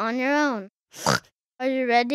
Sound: oinks

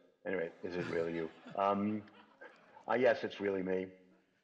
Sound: laughter

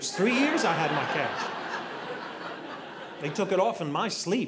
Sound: audience laughing

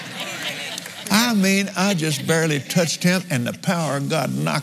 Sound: laughs

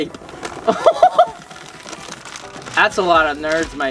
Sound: laughing

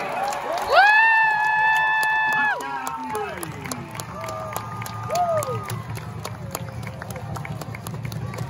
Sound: crowd yelling/applause/cheering

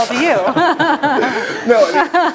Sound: laugh

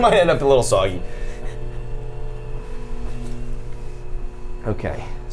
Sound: machine whirring

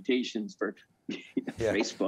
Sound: laughing; laughs

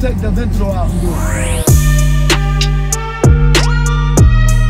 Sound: engine revving

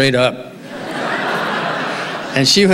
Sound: audience laughing

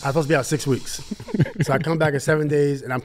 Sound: laughs

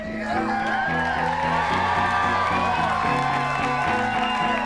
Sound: audience cheering

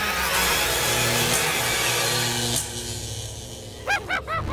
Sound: electric buzzing; laughter

